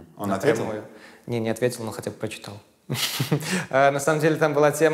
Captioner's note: chuckles